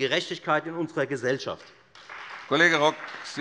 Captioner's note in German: Beifall Freie Demokraten und vereinzelt SPD